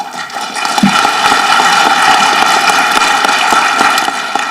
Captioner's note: audience clapping